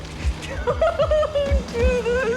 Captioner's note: sobbing